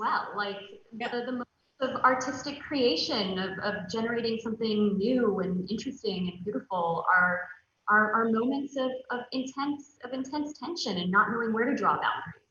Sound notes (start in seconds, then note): none